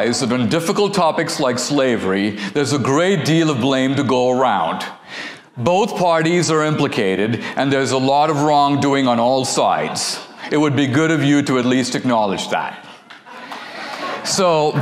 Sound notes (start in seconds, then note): 13.0 audience laughter